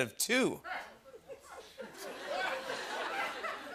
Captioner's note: laughter